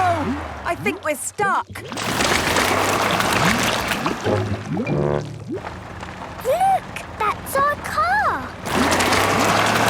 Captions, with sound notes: - Oh... I think we're stuck! (whirring) - Look! That's our car!